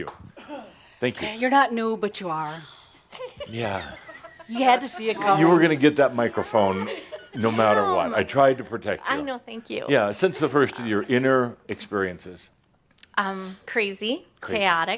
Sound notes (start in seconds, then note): 2.6 next Shaumbra sighs